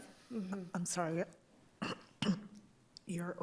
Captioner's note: clears throat